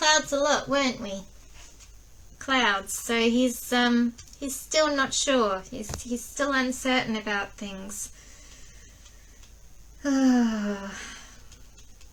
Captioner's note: long sigh